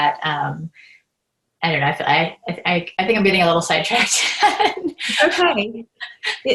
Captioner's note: laughs